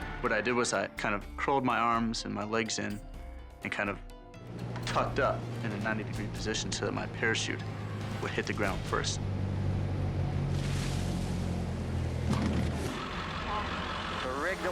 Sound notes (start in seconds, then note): 9.3 plane humming; 13.0 vehicle chugging